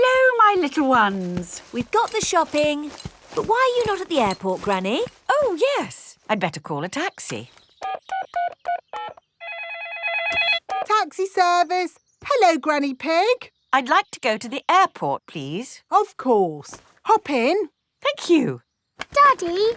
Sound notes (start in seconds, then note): 9.4 phone ringing; 9.4 dialing